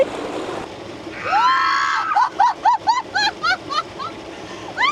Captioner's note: screaming; laughter